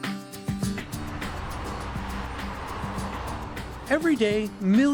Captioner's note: lively upbeat music; vehicles whooshing